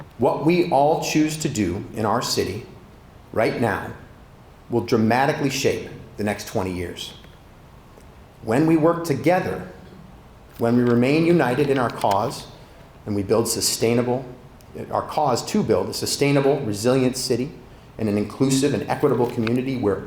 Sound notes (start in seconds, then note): none